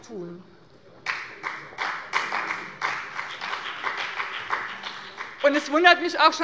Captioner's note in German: Beifall bei dem BÜNDNIS 90/DIE GRÜNEN und der CDU